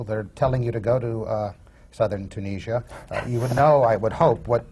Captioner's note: laughter from the panel